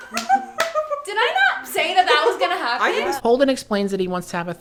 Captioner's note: everyone breaks into laughter